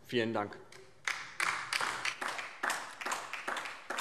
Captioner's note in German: Beifall DIE LINKE